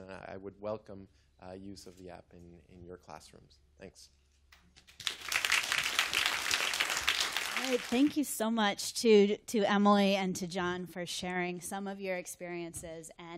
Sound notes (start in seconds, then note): 4.8 applause